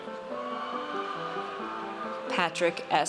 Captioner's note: audience cheers